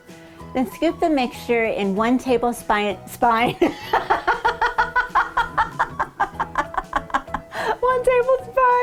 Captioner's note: laughing